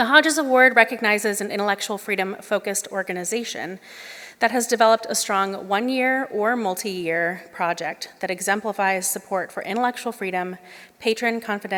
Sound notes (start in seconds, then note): none